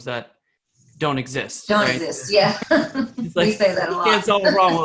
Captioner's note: laughs